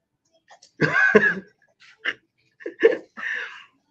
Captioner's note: laugh